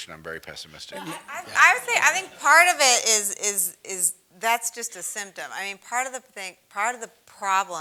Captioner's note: laugh